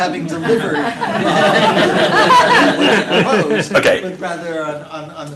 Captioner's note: laughing